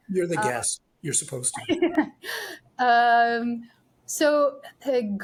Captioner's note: laughs